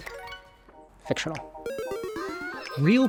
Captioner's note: game fail chiming